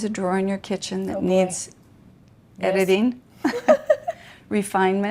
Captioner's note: chuckles